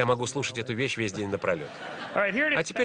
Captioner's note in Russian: Смех в зале